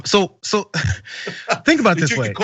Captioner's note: laugh